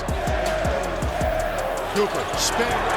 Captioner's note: crowd